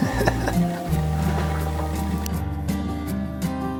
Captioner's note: chuckles